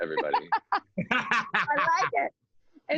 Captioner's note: laughs